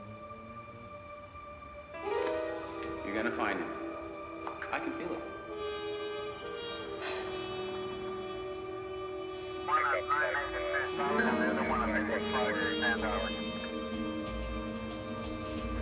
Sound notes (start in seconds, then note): 6.9 sighs; 9.6 garbled speaking on police radio